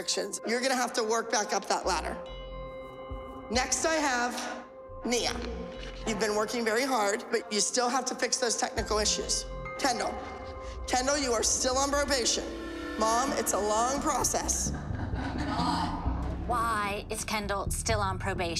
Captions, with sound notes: You're going to have to work back up that ladder. Next I have Nia. You've been working very hard, but you still have to fix those technical issues. Kendall. Kendall, you are still on probation. Mom, it's a long process. [laughter] Why is Kendall still on probation?